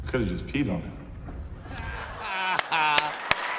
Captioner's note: laughter; cheers and applause